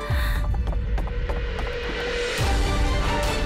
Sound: footsteps

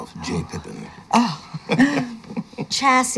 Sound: chuckle

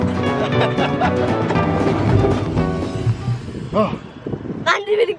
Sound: laughing

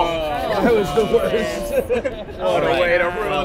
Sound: everyone Groaning

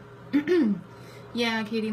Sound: clears throat

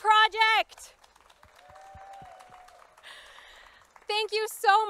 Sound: crowd cheering

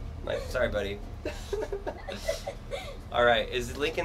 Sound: laughs

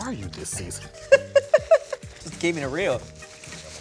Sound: laughs

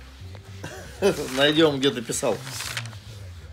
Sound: speaking Russian

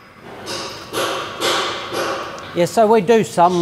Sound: hammer banging

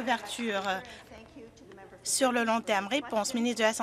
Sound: some Applause

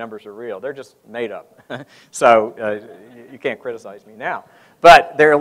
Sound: laughs

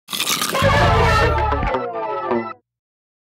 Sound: crunching sound

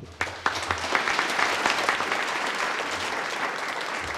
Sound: applause

